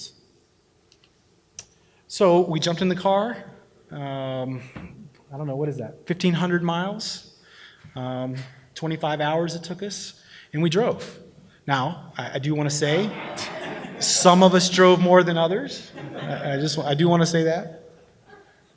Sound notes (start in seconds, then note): 12.9 laughter